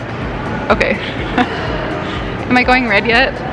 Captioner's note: laughing